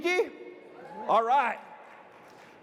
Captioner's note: audience cheering